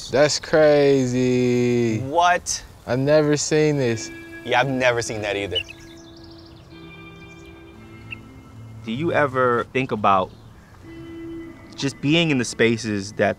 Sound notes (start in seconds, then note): 6.0 birds chirping; 6.0 calming music